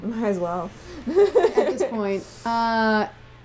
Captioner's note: laughter